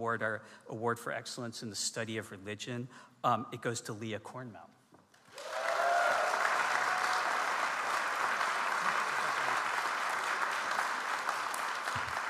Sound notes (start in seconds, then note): 5.2 audience applauds